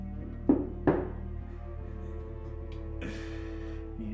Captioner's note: Dom taps twice